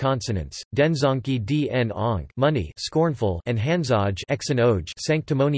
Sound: scornful

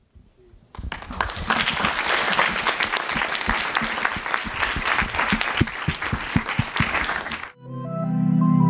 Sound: applause

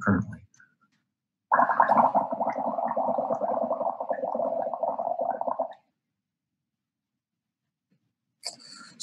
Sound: bubbling

